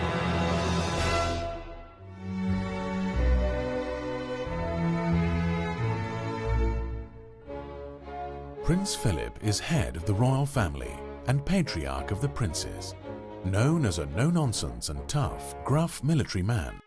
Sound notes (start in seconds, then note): 2.7 tranquil music; 8.6 voiceover